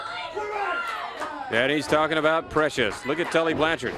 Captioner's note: crowd chatter